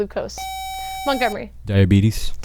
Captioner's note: buzzer